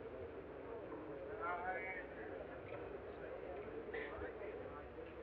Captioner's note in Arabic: الناس يتحدثون